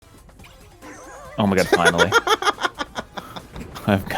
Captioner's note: laughs